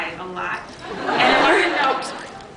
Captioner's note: laughs